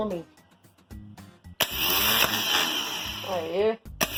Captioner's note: motor spins